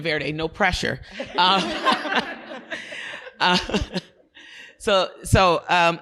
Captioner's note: audience laughing